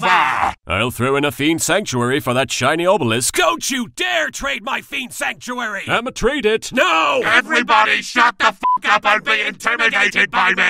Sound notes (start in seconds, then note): none